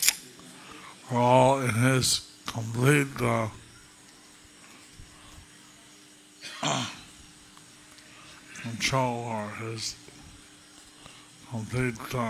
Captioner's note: cough